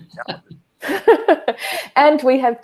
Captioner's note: laughs